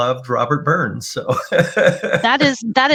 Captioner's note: laughing